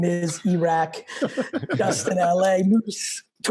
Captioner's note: laugh